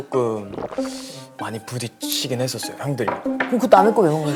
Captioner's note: slurp